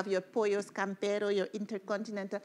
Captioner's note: speaking in foreign language